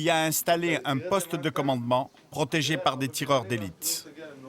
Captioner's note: French spoken audio